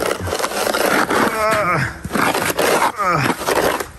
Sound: groans

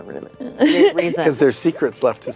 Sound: laughter

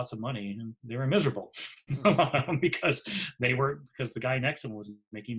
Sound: laughs

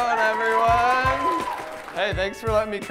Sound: cheering

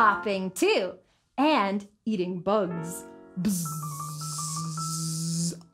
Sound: buzzes

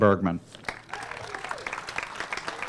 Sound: applause

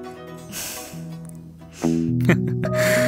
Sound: both chuckle

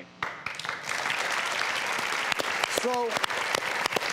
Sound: audience applauding

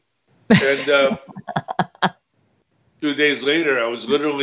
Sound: laughs

